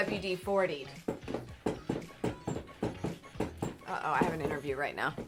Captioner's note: loud bumping